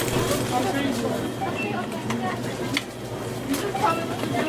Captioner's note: checkout beeping